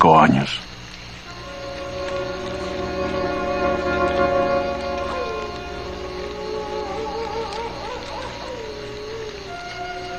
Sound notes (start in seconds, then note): 3.9 coyote howls in distance